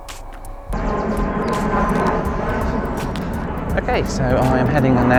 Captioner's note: airplane zooms loudly